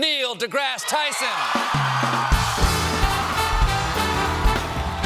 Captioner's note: cheers and applause